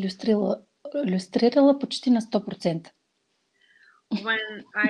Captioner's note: foreign Language followed by English Interpreter